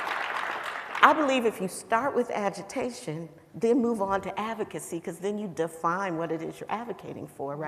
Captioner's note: applause